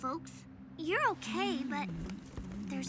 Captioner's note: softly humming